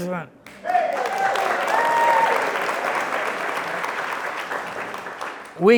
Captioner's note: crowd cheering and applauding